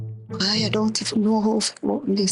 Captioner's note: speaking in foreign language